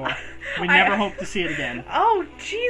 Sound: gasps in horror

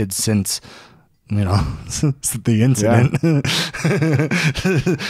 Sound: chuckling

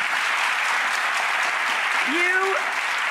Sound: audience applauds

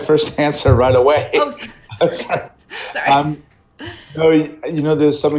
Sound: laughing

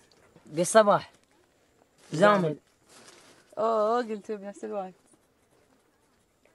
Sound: group speaking in foreign language continues

